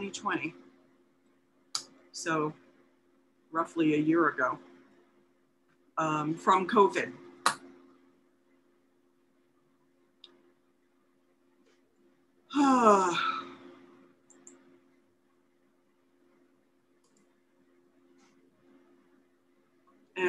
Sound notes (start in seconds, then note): 6.4 pause; 7.3 sighs